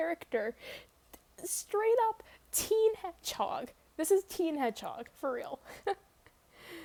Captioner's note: laughs